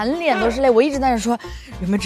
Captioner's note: laughed till cried